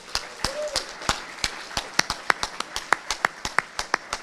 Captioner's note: audience applauding